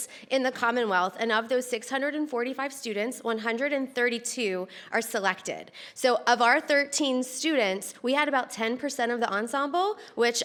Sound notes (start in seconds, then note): none